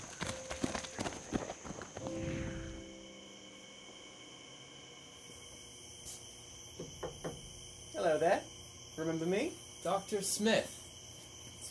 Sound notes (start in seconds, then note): 6.8 knocking